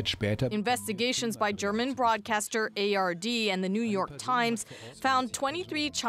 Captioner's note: speaking alternate language